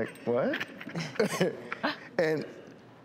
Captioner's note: laughs